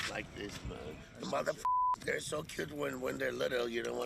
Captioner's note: beep